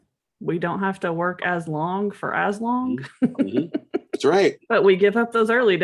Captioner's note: laughs